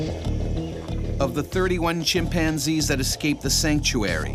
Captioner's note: voiceover